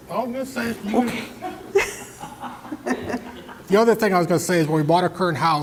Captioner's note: laugh